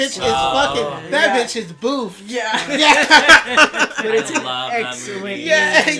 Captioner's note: laughter